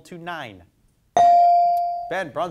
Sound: bell dings

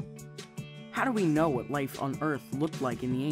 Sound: voiceover

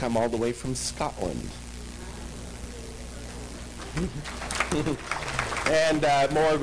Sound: applause

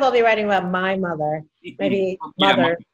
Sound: laughter

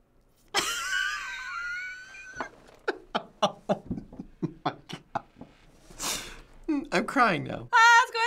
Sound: laughs

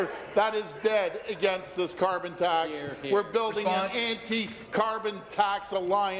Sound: chuckles

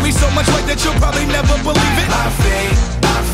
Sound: fans cheering

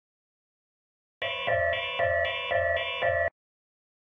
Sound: sound of facility alarm

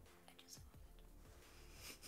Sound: whispers

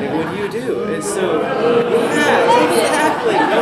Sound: booing

